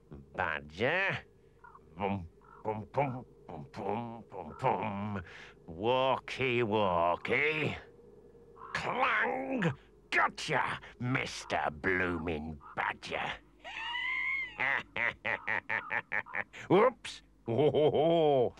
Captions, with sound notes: Badger. Bum, bum, bum. Bum-bum, bum-bum. Walky, walky. Clang! Gotcha. Mister blooming Badger. [Henchman Weasel wheezes] Whoops, whoa.